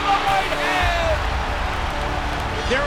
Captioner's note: crowd cheering